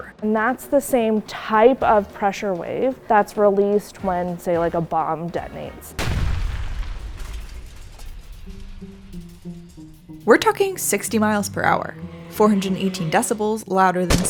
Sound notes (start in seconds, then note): 6.0 explosion; 8.2 curious music